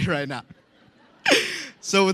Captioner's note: laughter